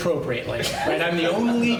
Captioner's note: laughter